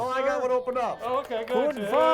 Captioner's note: audience applauding; speaking German